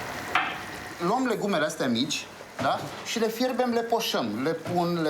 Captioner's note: speaking foreign language